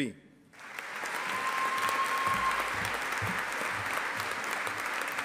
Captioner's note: audience applauding